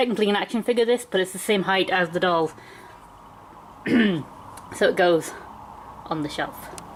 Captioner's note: ahem